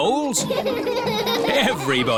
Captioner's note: all laughing